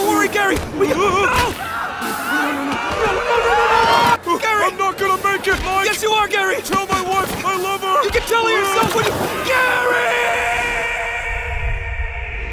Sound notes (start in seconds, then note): 1.8 yelling